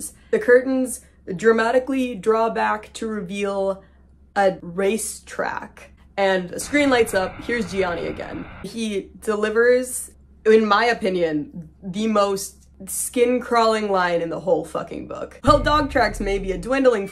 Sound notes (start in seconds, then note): 6.5 static; 15.4 creepy music